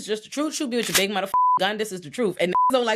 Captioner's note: beep